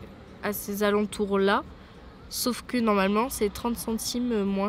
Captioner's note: none